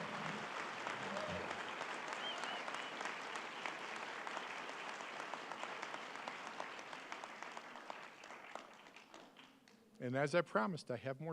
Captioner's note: applause